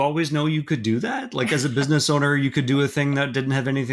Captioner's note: chuckling